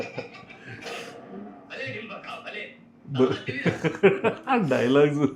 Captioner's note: snoring; laughs